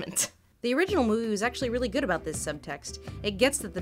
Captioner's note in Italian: voce fuori campo